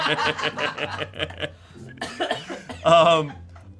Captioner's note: laughs; crew laughs